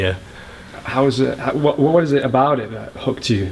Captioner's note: voiceover